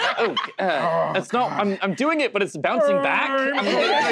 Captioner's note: Hob moans loudly; laughter